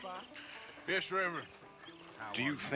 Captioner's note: sighs